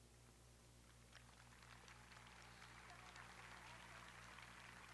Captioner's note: audience applauding